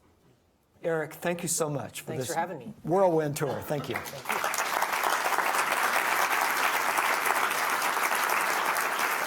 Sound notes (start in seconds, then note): 3.8 audience applauding